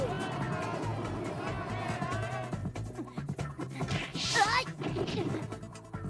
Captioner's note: crowd cheering